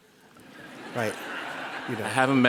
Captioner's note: laughter